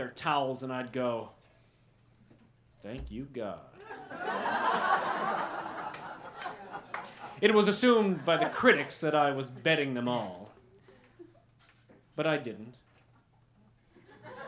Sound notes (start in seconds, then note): 3.8 laughter